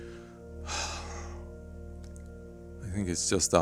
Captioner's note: sigh